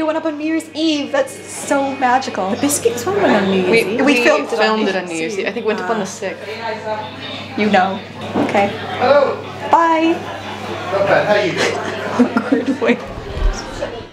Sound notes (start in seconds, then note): 11.6 laughs